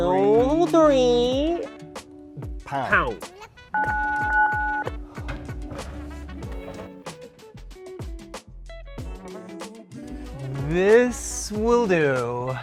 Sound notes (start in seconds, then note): 3.7 keypad beeping; 5.1 gasps; 6.6 light music